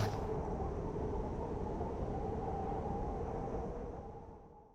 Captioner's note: wind howling